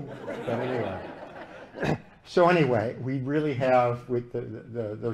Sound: laughter

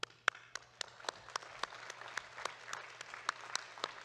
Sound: audience claps

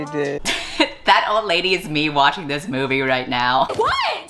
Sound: laughs

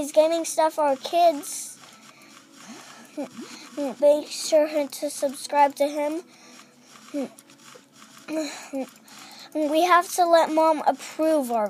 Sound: stuttering

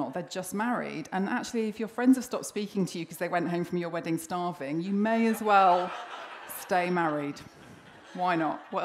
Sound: laughter

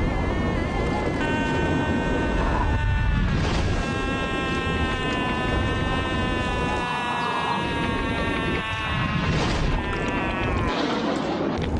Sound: adult screams & blowing wind effects

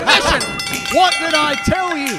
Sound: bell rings

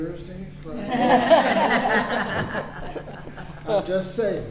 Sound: laughter

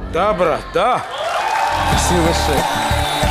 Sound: applause

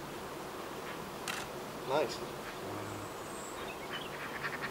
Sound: bees buzzing

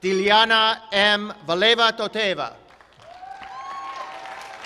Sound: applause, applause

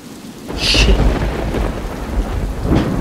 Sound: thunder

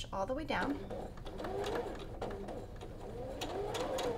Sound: machine whirs

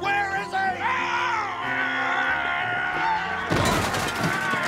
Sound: growling

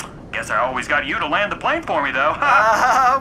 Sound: laughing

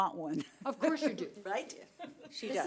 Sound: laughing

